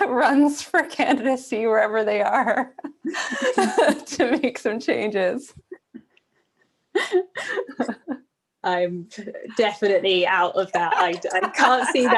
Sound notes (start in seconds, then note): 2.5 laughter